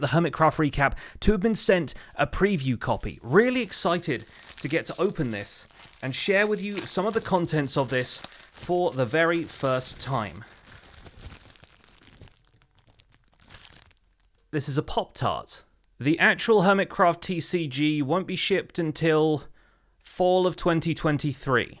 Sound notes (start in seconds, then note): 10.4 wrapper crinkling